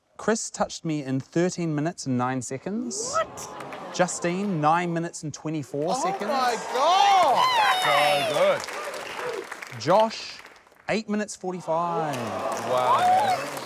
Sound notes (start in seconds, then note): 5.8 applause